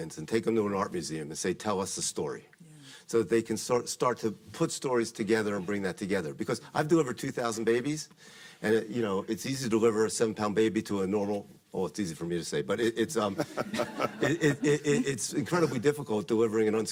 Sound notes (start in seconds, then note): 13.3 audience laughing